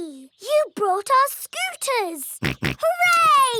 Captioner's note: snorts